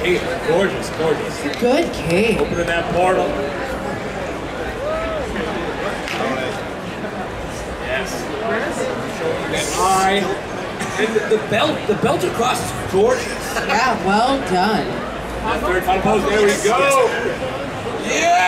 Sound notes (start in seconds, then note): 2.9 audience chattering